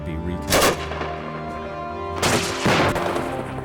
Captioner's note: gunshots